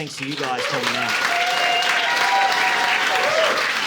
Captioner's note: audience applauding